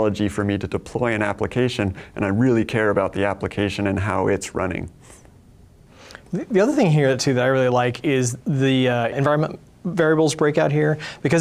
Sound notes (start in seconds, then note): none